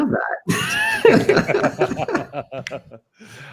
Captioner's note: laughter